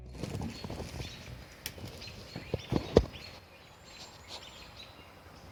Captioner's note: birds chirping